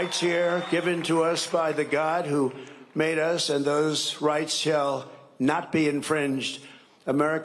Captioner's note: cheering and applause